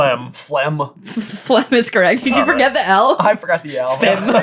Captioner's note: laughing